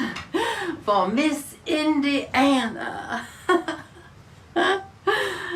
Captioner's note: laughs